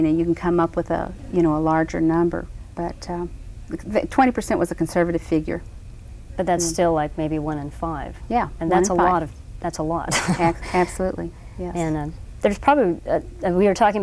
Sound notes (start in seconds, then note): 10.1 laughs